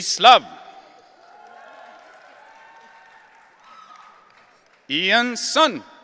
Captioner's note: audience cheering